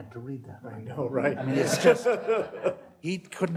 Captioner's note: laughter